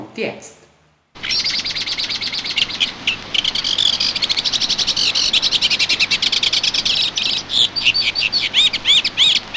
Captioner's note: a bird sings